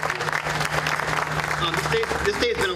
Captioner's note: applause